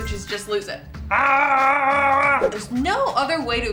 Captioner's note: screams